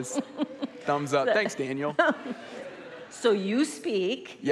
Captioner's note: laughs